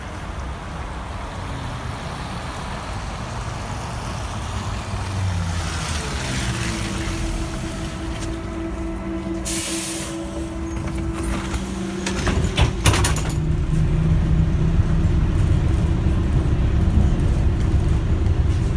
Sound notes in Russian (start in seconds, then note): 11.3 открытие дверей